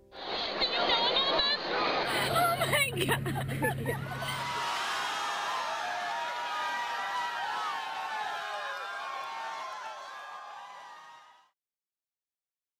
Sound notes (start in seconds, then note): 3.8 laughing; 4.9 crowd cheers